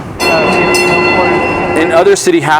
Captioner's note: streetcar ringing